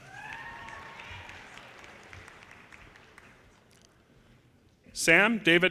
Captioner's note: audience cheers and applause